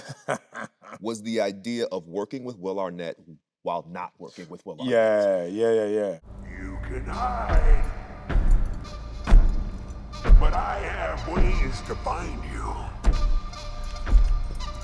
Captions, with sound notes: (Anthony laughing) was the idea of working with Will Arnett while not working with Will Arnett. - Yeah. Yeah, yeah, yeah. - You can hide. (footsteps thumping) But I have ways to find you.